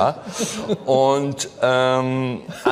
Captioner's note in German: Lachen